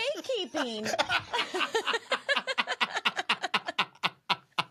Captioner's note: both laughing